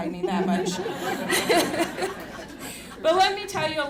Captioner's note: laughter